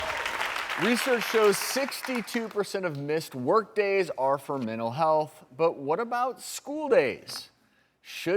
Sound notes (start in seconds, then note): 0.0 audience clapping